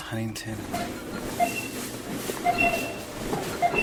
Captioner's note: checkout beeping